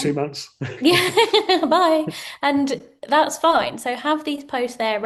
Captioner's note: chuckles